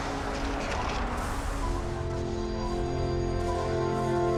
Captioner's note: lightning crashing